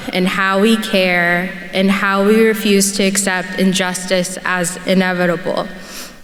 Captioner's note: none